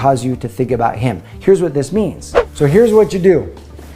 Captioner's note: whooshing sound